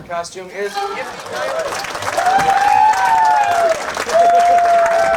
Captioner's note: audience cheers